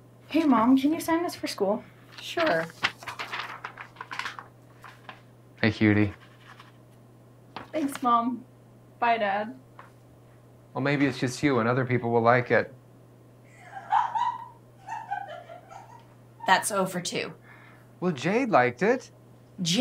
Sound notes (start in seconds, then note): 13.5 laughs loudly